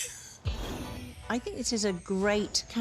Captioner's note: laughs